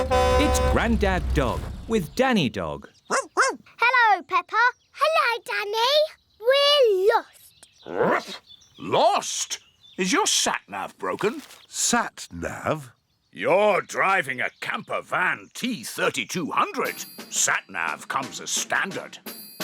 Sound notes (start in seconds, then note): 3.1 barking; 7.2 barks